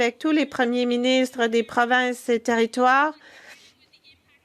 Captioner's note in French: voix de l'interprète